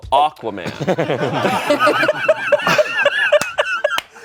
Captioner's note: everyone laughs